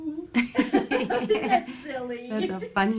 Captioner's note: laughter